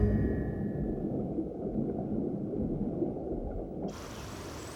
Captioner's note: water bubbling